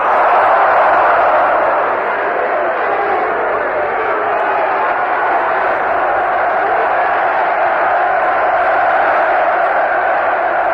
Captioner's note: laughter, Booing